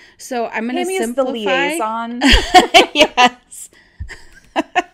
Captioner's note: laughs